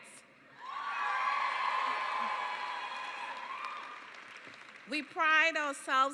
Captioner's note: cheering and applause